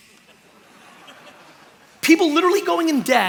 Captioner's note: laughter